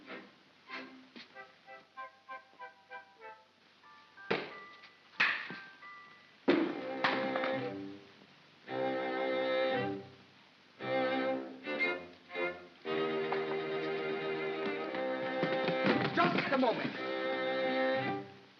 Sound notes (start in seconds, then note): 5.2 pop & crack; 7.0 pop; 8.6 ominous whimsical music